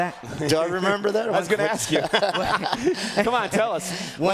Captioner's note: laugh